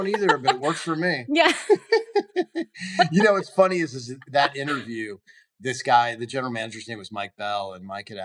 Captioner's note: laughs